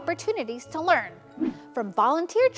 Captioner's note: transition whooshes